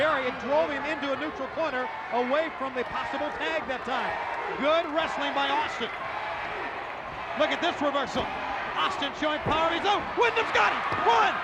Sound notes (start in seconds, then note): 3.9 audience chanting and clapping